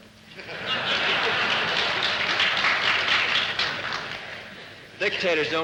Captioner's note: laughter, clapping